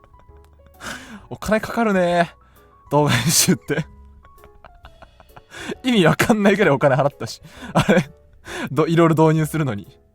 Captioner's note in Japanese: 笑い